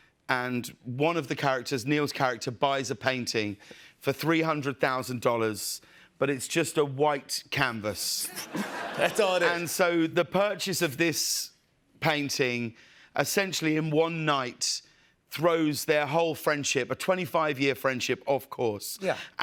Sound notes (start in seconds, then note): 8.2 laughter